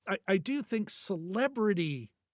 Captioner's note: none